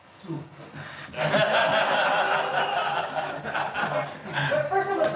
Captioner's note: all laughing